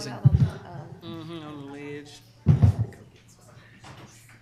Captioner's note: everyone chattering